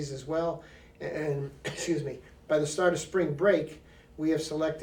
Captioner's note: coughs